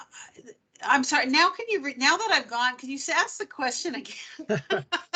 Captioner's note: laughing